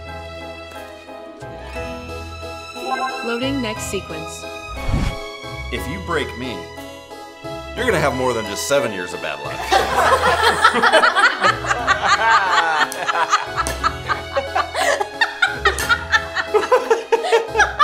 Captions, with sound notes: (computer chiming) Loading next sequence. If you break me you're gonna have more than just seven years of bad luck. (group laughing)